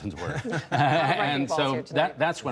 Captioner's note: laughter